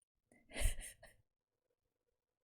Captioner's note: laughs